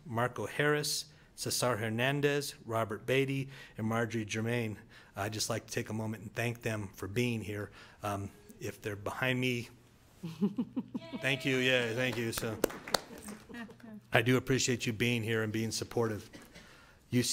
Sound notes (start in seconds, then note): 11.0 audience member cheers; 13.3 board applauds